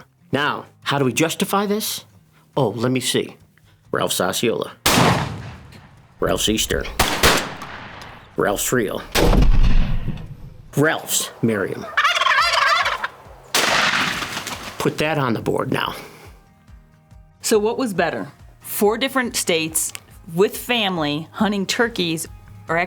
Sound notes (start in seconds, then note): 4.8 gunshot; 6.7 gunshots; 9.1 gunshot; 11.0 turkey gobbling; 13.5 gunshot